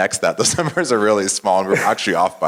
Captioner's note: laugh